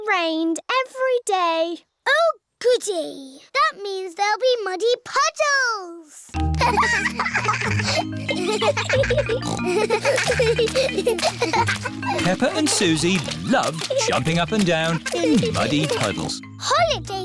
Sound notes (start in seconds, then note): 7.2 giggling; 9.0 peppa snorts